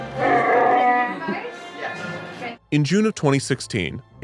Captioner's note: roars